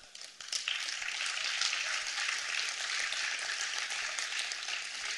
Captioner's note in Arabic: تصفيق